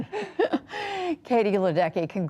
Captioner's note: laughter